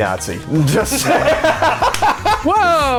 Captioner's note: laughs